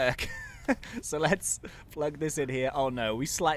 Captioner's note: laughs